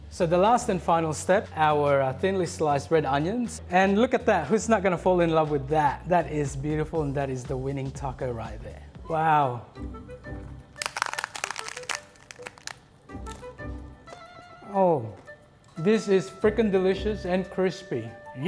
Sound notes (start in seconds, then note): 10.7 taco crunches